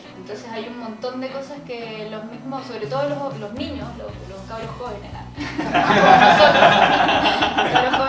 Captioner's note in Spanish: risas